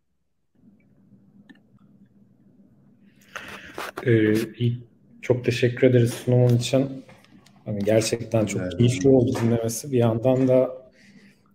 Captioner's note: turkish conversation